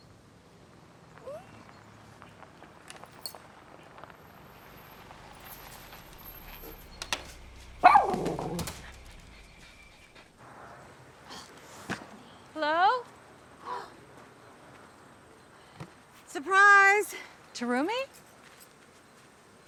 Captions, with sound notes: -[tires crunching gravel] -[Millie whimpers] [Millie barks] Hello? [gasps] -Surprise. -Tarumi?